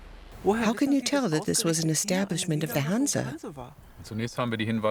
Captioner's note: in German